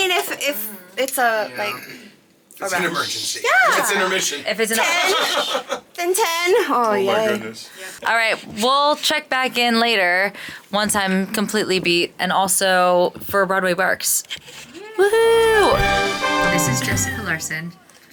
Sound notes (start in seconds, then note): 5.1 laughing; 15.4 upbeat music